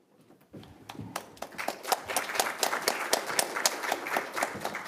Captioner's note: audience claps